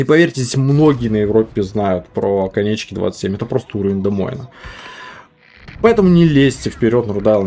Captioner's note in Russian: тяжело вздыхает